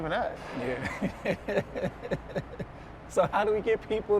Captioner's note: laughs